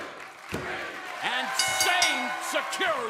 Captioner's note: bell ringing